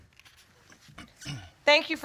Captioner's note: clears throat